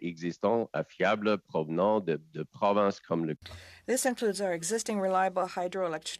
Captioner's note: speaking French